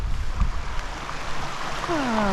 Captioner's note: water rushing